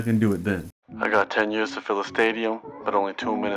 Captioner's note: voiceover